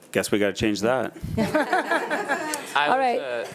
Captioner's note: board members laughing